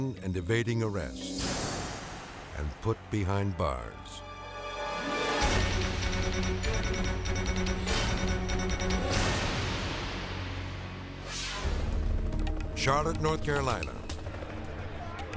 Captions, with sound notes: and evading arrest and put behind bars. (dramatic upbeat music) (air whooshes) (somber tense music) Charlotte, North Carolina.